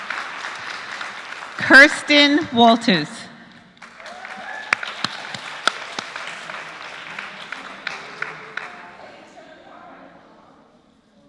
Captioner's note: applause